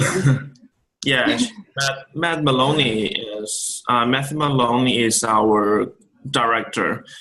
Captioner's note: laughs